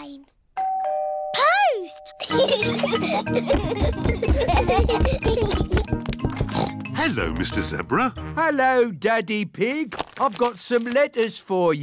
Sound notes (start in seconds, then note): 0.6 doorbell rings; 2.2 both giggling; 6.4 oinks